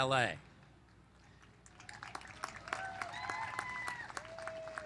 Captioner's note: cheers and applause